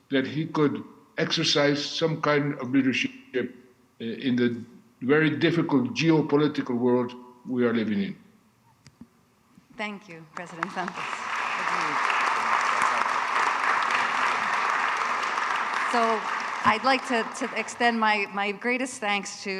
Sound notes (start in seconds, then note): 10.3 audience applauding